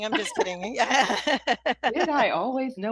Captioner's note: laughter